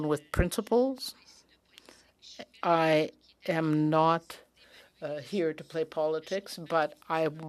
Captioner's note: speaking French